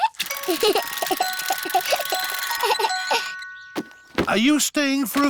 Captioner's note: alexander giggles